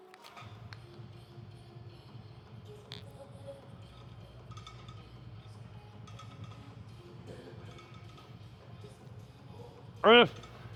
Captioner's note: man groans